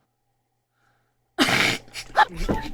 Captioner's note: laughing; both Laughing